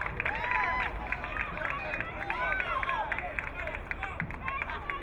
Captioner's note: crowd clapping